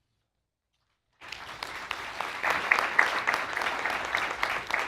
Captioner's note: audience clapping